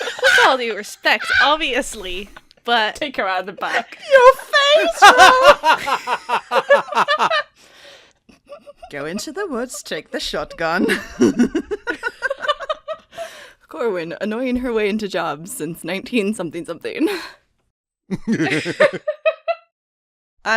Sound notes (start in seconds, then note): 8.3 laughter